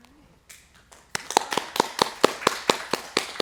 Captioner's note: applause